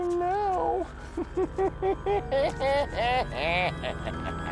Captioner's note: evil laughter